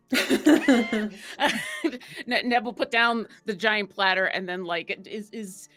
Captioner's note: laughs